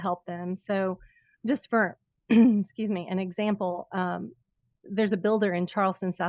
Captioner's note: coughs